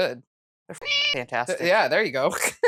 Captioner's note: meow